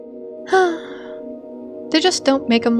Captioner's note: sigh